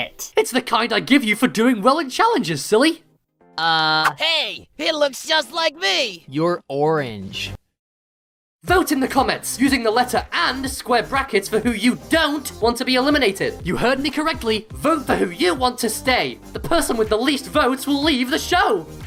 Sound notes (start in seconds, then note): none